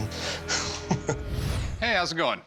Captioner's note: laughs